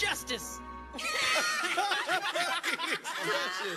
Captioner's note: group laughter